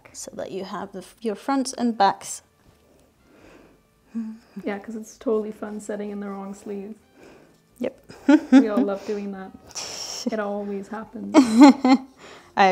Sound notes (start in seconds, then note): 8.1 chuckling; 11.3 laughing